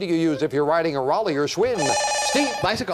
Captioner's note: beep